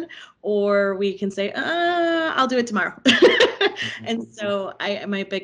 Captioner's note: laughing